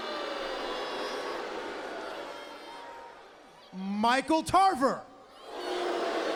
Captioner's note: crowd cheering